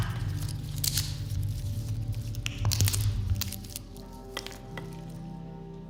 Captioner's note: crackling sounds